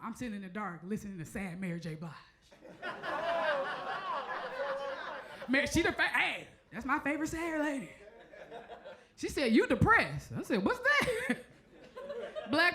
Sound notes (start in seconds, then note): 2.6 crowd laughs; 8.4 crowd member chuckles; 11.8 chuckles